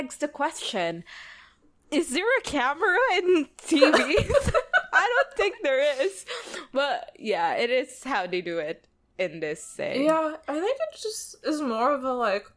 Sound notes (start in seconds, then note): 3.7 both laugh